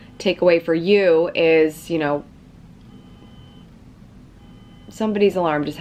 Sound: car alarm ringing

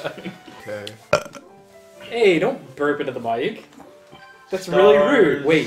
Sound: burps into the mic

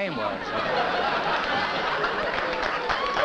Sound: laughter; applause

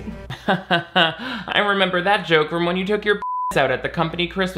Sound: Nick laughs; beep

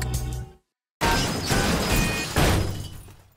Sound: thudding

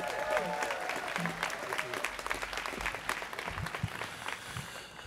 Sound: students cheering

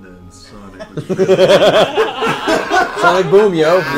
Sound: all laugh

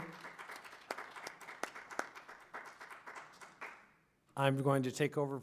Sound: applause

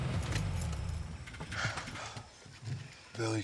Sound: sighing

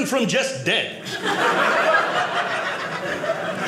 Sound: audience laughing

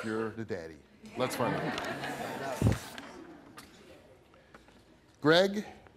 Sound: audience laughs

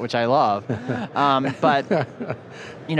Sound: laughter

